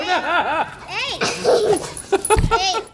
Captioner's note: bark; laughter